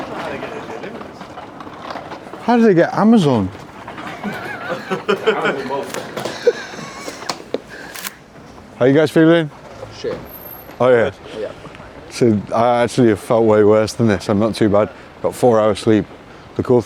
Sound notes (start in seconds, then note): 3.8 laughs; 7.8 screen snaps